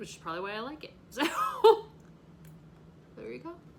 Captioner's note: laughs